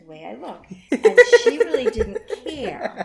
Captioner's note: laughing hard in background